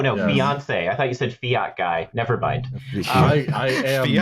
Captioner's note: laughs; laughter